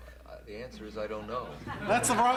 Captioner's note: laughter